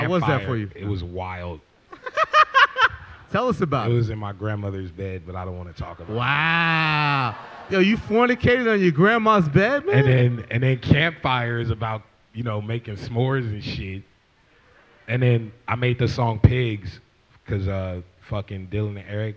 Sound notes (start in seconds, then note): 1.9 laughs; 5.8 laughs